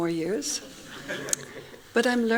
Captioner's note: laughing